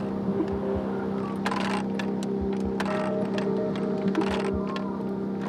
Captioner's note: ratchets clanking